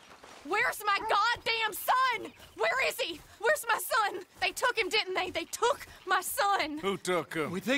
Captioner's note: worried